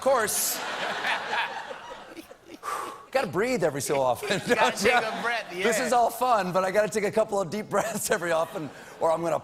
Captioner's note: laughter